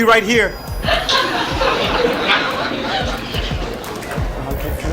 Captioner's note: audience laughs